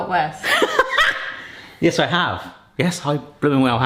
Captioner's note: laughs